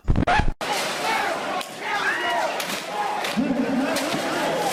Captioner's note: crashing and screaming everywhere